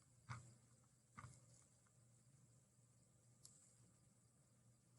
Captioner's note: mouse scrollings